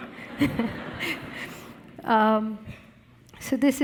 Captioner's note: audience laughing